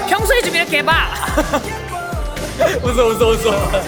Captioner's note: failed to hold back laughter